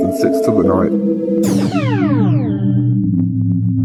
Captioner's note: teleportation sound